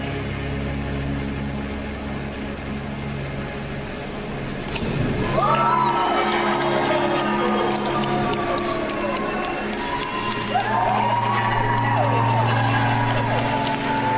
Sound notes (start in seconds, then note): 5.2 audience applauding